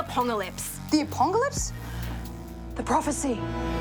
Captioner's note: gasps